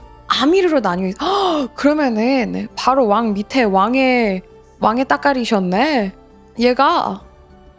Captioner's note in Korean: 헉 소리